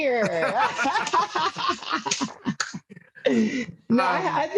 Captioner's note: laughs loudly